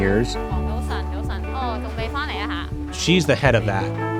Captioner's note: speaking in foreign language